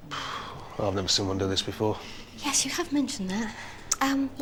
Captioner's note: sighs